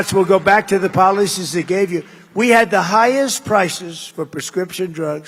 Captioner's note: applause